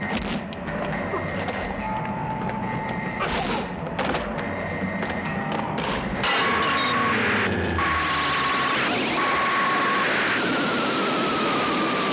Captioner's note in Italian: urlo